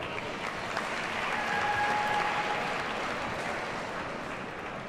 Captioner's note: audience cheers and applauds